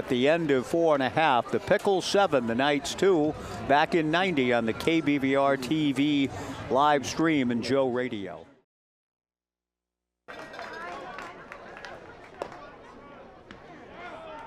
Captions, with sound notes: At the end of four and a half, the Pickles, 7, the Knights, 2. Back in 90 on the KBVR-TV live stream and Joe Radio. [CHATTER]